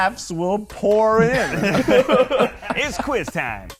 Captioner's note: all laughing